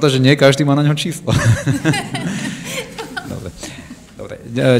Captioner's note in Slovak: smiech